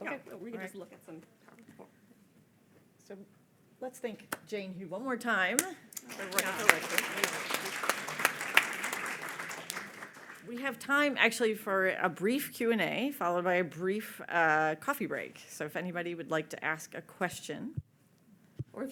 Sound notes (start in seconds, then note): 6.0 audience applauding